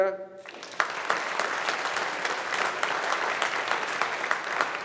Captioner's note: audience applauding